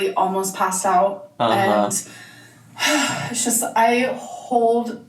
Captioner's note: huffs